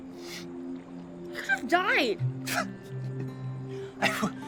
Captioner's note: chuckles